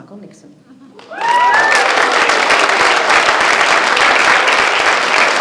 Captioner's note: audience applauding